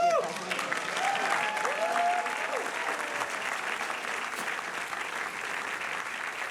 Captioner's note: audience cheering and applauding